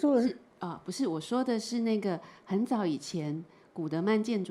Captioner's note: Mandarin